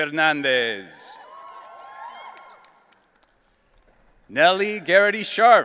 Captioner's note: audience cheering